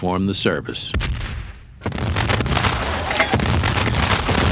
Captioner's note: cannons blasting